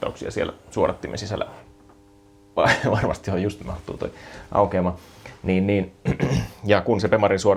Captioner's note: snorts